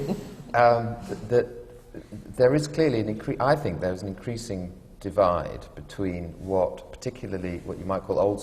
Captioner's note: laughter